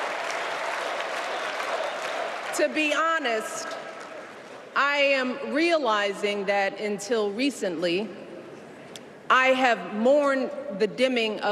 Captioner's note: applause